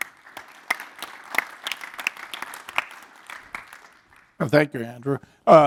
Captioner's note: applause